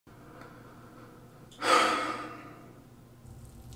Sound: big sigh; razor scraping

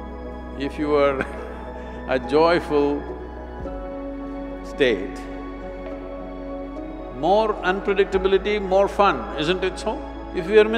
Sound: laughs

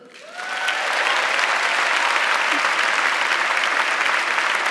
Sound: audience clapping

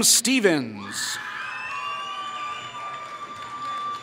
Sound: applause

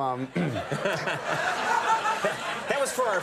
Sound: crowd laughing

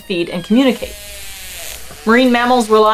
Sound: whale vocalizations

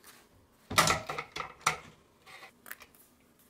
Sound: rattle rattle rattle rattle rattle rattle rattle rattle

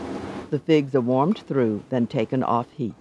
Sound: voiceover

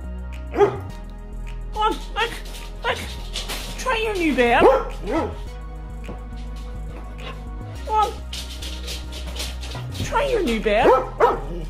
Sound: Max barks

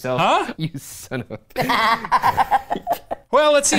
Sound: laughs

